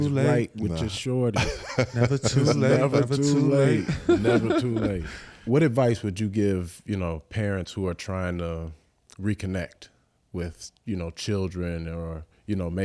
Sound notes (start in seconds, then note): 1.3 Eric laughs